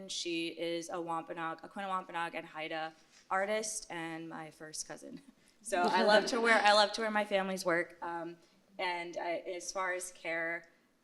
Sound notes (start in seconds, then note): 5.1 chuckles